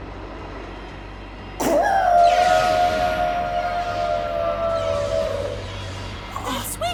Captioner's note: screaming